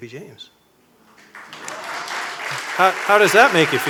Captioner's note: applause